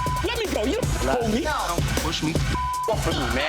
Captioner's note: beep; beep